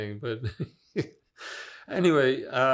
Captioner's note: laughing